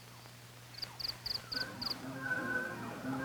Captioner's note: crickets chirping